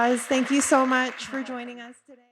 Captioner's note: audience applauds